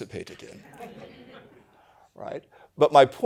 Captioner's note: laughter